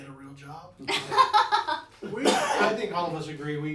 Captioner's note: all laughing